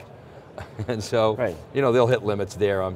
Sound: chuckles

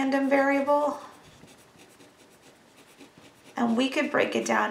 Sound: scribbling

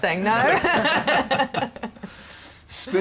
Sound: laughter

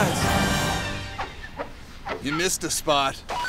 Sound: squeaking

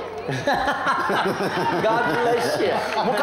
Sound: boisterous laughter

